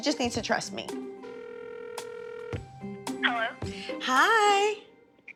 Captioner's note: ringing